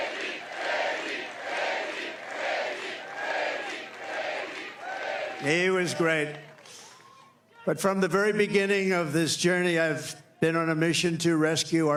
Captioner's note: cheering